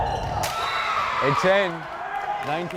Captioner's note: crowd cheering